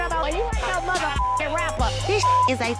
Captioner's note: beep